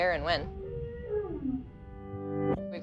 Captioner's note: whale bellows